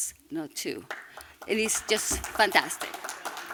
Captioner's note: applause